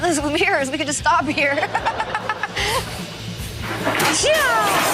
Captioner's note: laughs